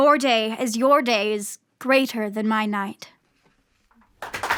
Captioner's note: applause